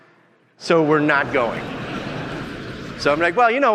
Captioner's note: audience laughing